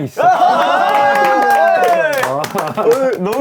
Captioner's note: cheering!